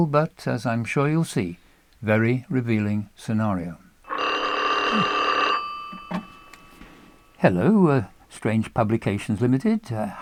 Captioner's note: phone rings